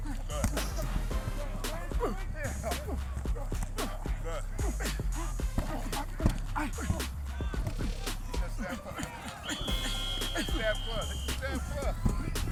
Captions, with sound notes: Good. [grunting] - Good. [whistle blowing] It's a staff club. It's a staff club.